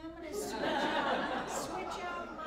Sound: laughter

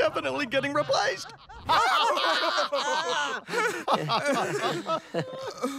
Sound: laughing

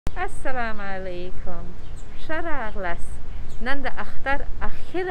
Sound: speaking foreign language

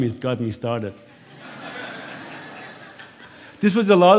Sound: laughter

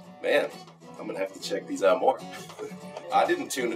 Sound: chuckles

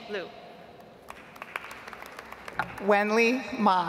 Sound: audience applauds

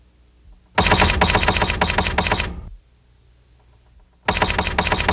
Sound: typewriter clacks

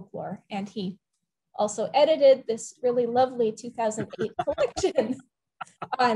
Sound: laughs

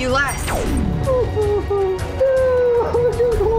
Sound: sobbing

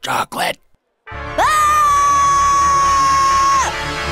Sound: long scream

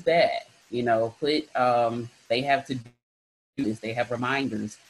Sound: sound distorts

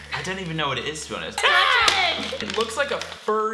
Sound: package crinkling

